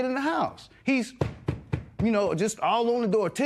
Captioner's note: tapping